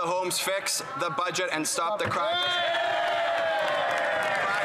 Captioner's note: some Applause